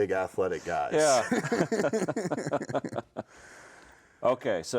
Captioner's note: both chuckling